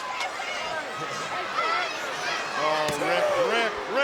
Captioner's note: crowd cheering; Ric growling